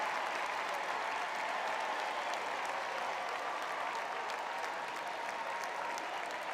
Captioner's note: cheering